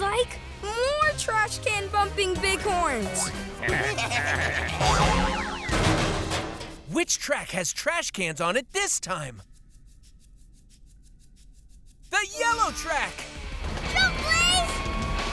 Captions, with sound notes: more trash can bumping big horns! [baaing] Which track has trash cans on it this time? The yellow track! Jump Blaze!